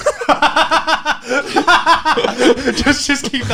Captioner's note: laughing